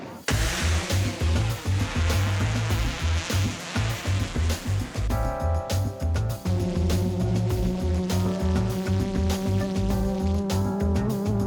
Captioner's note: bright upbeat music; blades rotating